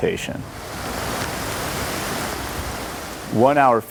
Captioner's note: rain drumming